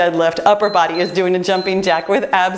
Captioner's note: timer beeps